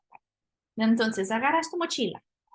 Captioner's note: spanish